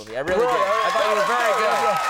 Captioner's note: audience cheering and clapping